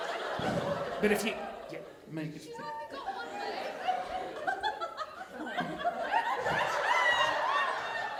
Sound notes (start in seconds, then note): 2.9 audience laughing